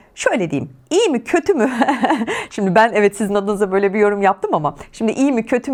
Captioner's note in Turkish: kahkaha